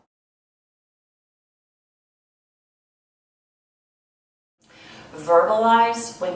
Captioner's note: silence